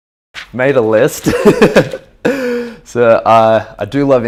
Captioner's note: laughing